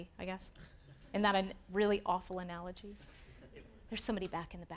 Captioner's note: audience chuckling